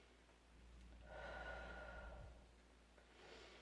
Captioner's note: breaths in; breaths out; breaths in